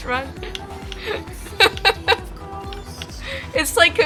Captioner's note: laughs